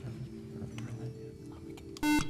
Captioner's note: beeping